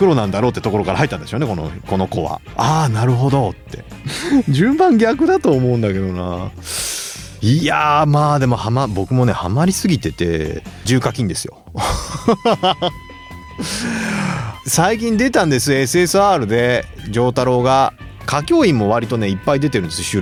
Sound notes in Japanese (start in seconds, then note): 11.7 笑い